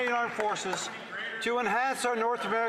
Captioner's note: some Applause